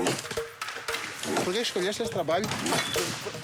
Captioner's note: Portuguese spoken audio